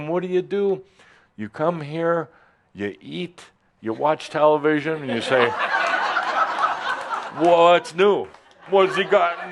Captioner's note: laughter